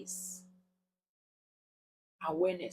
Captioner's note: paause